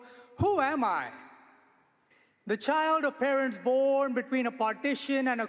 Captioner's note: none